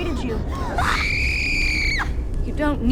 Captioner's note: screaming